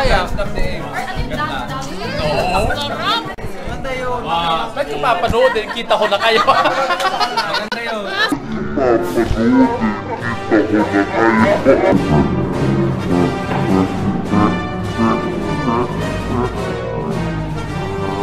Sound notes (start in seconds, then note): 11.5 evil laugh